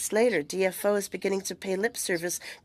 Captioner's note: speaking French